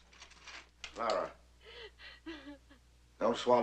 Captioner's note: sobbing